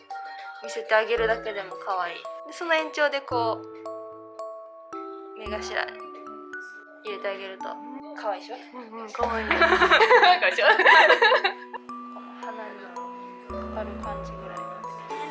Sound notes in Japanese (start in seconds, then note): 9.2 笑い